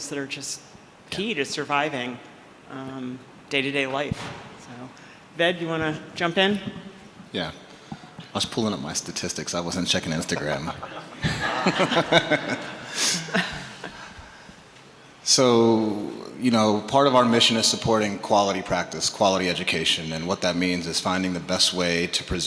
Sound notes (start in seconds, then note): 10.4 everyone laughing